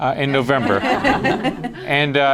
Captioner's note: laughter